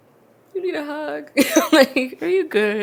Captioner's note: laughs